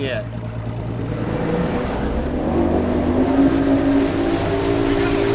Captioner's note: engine revving